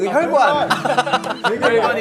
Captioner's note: laughing